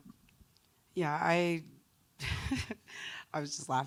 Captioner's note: laughs